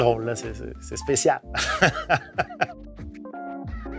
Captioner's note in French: rires